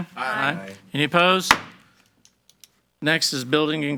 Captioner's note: gavel banging